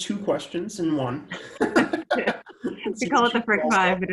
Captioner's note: both laugh